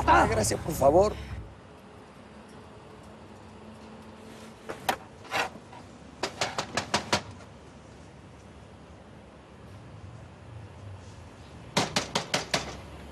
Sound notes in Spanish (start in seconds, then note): 6.8 Toques en la puerta